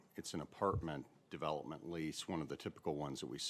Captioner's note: off mic